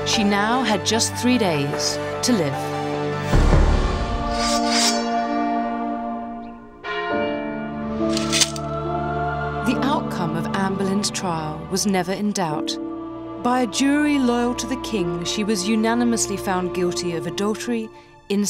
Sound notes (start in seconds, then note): 4.3 sword unsheathes; 4.6 slow dramatic music; 6.8 bell tolls; 8.1 sword clinks